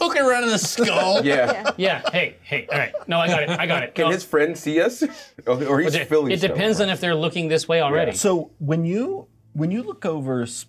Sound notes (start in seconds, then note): 5.3 laughs